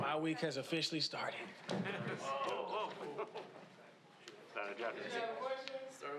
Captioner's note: reporters chatting offscreen